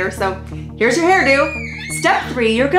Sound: screaming

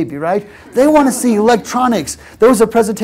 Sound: laugh

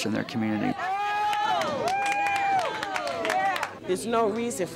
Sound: cheering

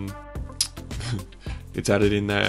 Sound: giggles

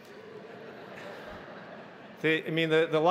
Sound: audience laughing

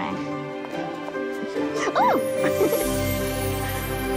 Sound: laughs

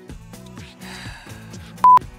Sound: heavy sigh

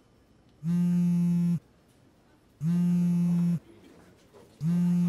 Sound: phone buzzing

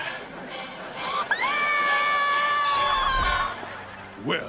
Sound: screaming

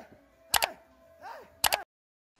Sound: clicks

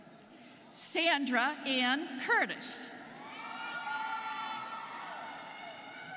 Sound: students cheering

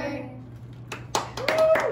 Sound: applause and light cheering

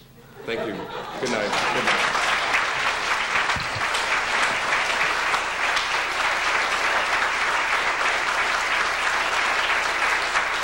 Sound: applause

